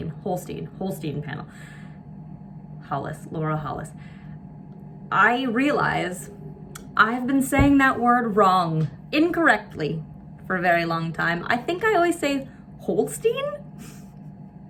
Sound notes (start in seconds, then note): 12.5 chuckles